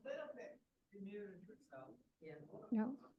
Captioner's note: background chatter